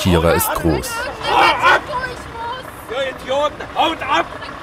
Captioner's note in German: schreit